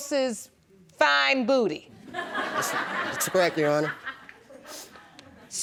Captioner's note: audience laughing